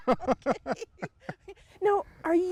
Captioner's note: both laughing